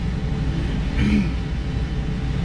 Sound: clears throat

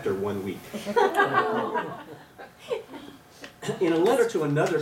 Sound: laughter

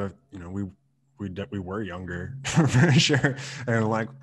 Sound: laughs

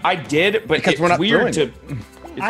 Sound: laugh

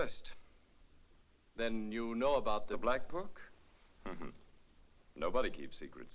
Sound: chuckles

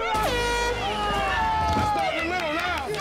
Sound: horn blast

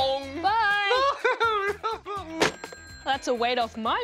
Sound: laughs

